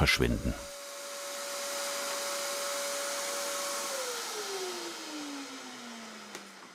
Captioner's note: vacuum turns off